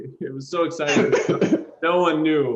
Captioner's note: laughter